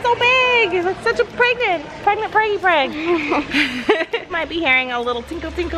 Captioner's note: laughs